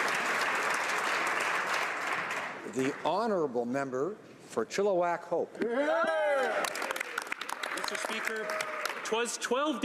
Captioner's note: applause